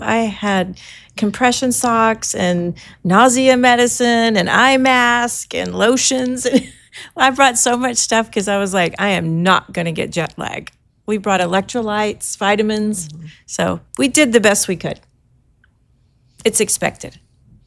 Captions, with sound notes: I had compression socks and nausea medicine and eye mask and lotions. (chuckles) I brought so much stuff because I was like, "I am not gonna get jet lag." We brought electrolytes, vitamins, so, we did the best we could. It's expected.